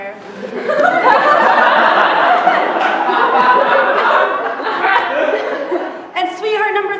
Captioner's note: laughter